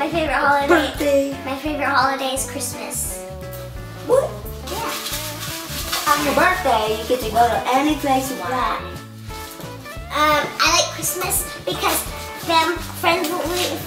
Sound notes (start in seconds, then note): 5.4 rustling